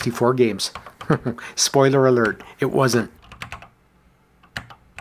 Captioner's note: chuckles